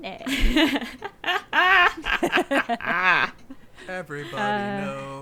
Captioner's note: group laughing